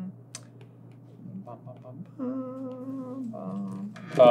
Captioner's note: hummmmmmmmmmmmmmmmmmmming